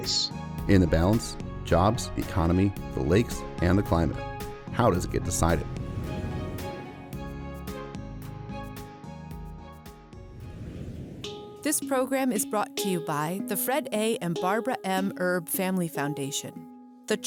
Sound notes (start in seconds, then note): 5.3 screen whooshes; 6.7 cheerful music; 10.2 screen whooshes